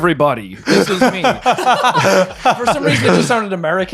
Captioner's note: laughing